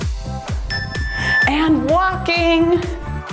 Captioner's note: timer beeps